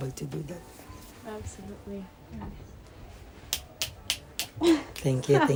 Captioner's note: snaps